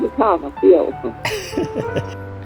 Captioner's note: laughing